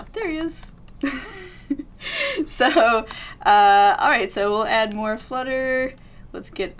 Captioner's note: laughs